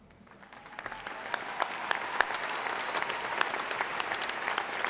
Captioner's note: audience applauding